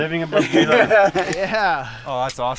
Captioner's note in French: Le groupe rit